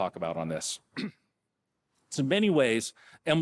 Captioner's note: clearing throat